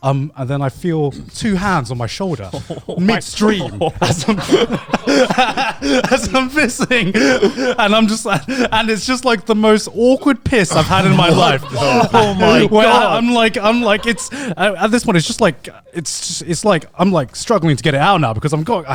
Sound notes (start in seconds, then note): 2.3 chuckles; 6.7 laughing; 7.7 all laughing